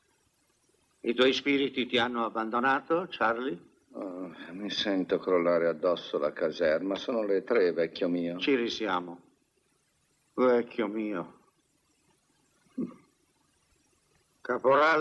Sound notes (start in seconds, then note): 12.7 chuckles